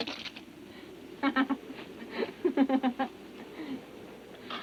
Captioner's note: Abby laughs